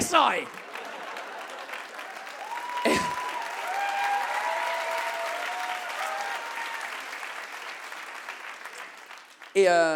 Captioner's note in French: le public applaudit et acclame